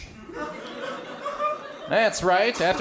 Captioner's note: crowd laughs